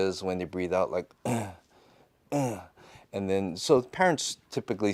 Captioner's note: grunt